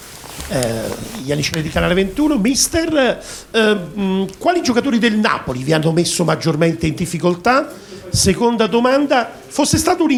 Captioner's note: italian with no English translation